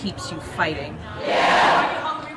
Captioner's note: crowd Yells